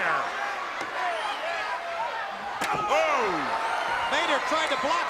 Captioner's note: crowd cheering